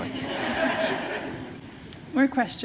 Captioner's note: laughter